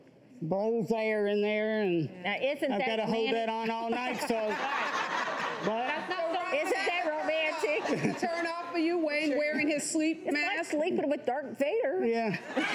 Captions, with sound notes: and I've gotta hold that on all night. (audience laughs) Isn't that romantic. Is that a turnoff for you? Wayne wearing his sleep mask. It's like sleeping with Darth Vader.